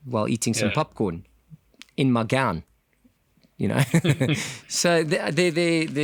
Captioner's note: laugh